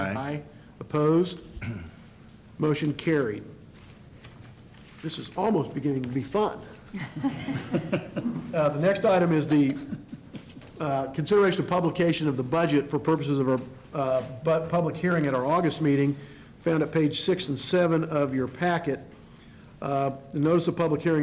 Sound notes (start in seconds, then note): 6.9 laughter